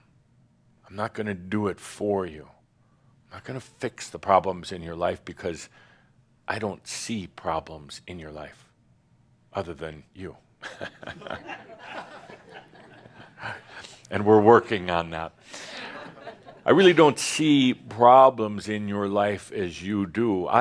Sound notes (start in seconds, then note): 10.6 some chuckles